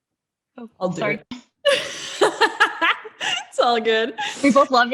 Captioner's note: laughs